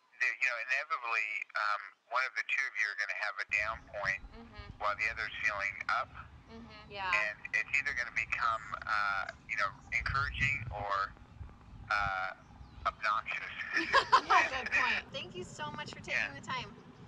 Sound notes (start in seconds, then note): 12.9 laughs